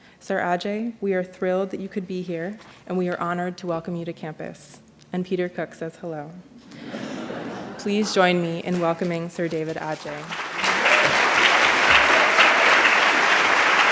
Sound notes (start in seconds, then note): 6.6 laughter; 10.3 applause